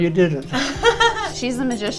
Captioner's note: laughs